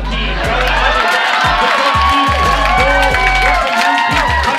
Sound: laughter and cheers

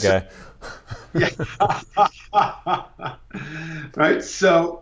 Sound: laughing

